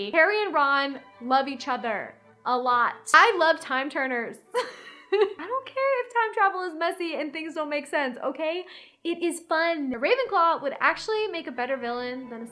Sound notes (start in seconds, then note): 4.7 laughs